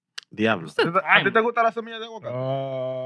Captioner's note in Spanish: Hablando en idioma extranjero